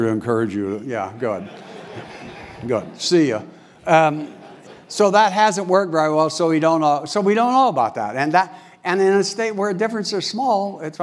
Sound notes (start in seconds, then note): 1.3 laugh